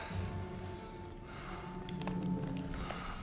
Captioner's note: breathing heavily